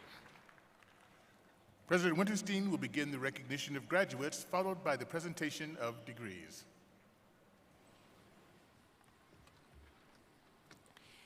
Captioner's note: applause